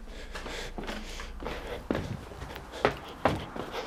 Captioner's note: heavy breathing